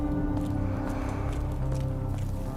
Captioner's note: none